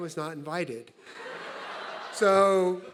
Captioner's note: audience laughing